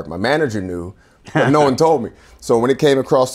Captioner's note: laughing